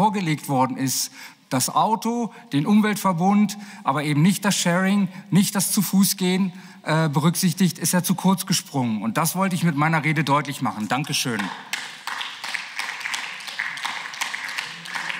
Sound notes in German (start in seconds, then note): 11.0 Beifall